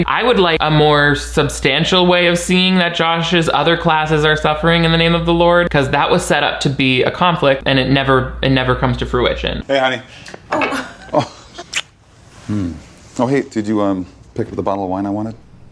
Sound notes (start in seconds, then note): 10.4 Robert chuckles; 10.4 Mina chuckles; 11.6 lips smacking